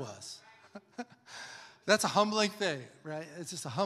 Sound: laughs

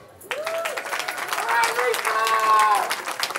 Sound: cheering

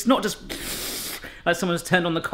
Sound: gushing sound

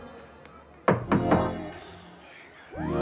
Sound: knocking on door

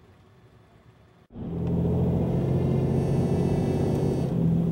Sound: phone vibrates

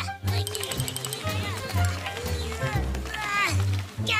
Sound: shaking coconut tree

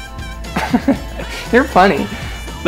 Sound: laughter

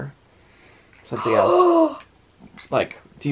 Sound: gasps

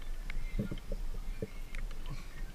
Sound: boat sounds

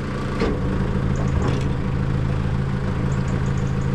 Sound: engine noise

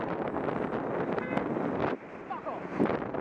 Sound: car horn sounds from behind

